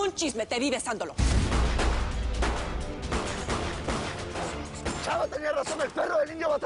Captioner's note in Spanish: Disparos